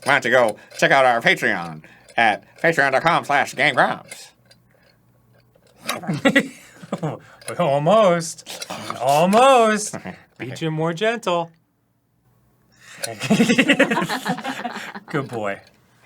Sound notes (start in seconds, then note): 5.6 chomp; 12.9 gentle chomp